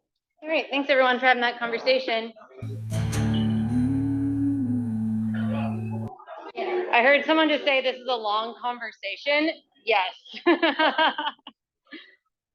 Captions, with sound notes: All right. Thanks, everyone, for having that conversation. (upbeat acoustic guitar music) I heard someone just say this is a long conversation. Yes. (laughs)